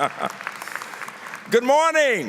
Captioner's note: laughter; applause